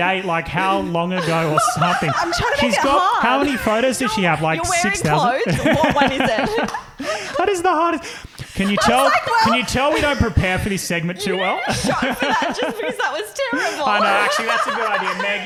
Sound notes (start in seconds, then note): 6.8 laughing